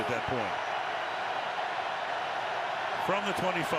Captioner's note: cheering